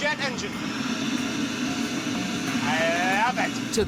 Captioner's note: whirring